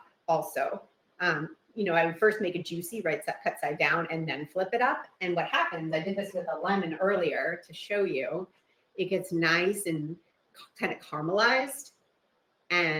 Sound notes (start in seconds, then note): none